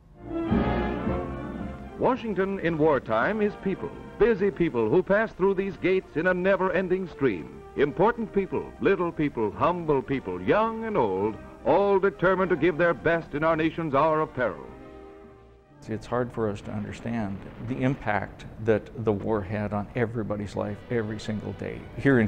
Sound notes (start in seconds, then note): 0.2 big Band music; 2.1 voiceover